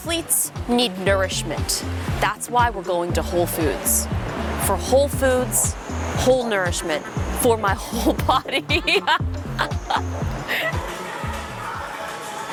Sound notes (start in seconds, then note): 9.0 laughs